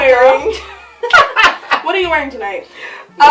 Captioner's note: laughs